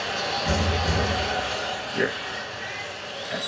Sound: two thuds echo in distance

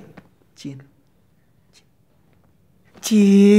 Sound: whispers

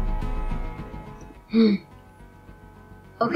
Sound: sighs

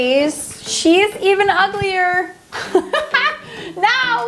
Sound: laughs

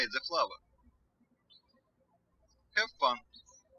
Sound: birds chirping

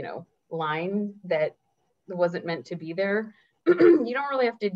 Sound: clears throat

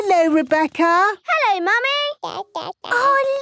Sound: babbling

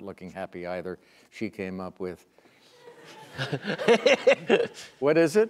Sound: laughter

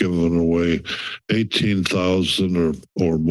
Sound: inhales

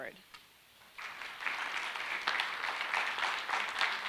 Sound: clapping

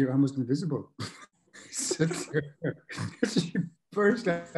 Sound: laughs

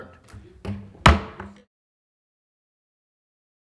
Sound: gavel thuds

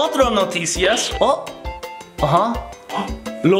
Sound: speaking Spanish

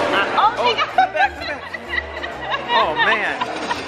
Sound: laughing

